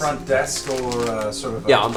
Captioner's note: package crinkling